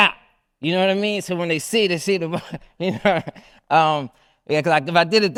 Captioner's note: laughs